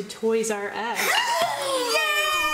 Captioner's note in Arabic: صرخات متحمس